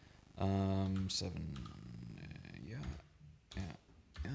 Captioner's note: mutters